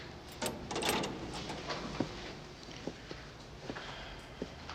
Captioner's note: locks disengaging